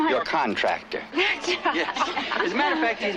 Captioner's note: laughter